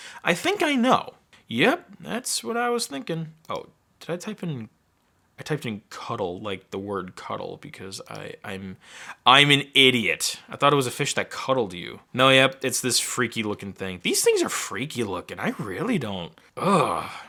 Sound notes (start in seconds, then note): none